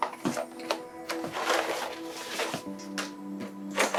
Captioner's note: mystical instrumental; rattling